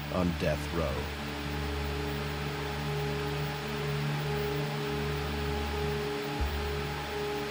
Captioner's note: static hisses; tense music